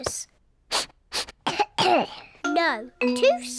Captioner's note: sniffs and coughs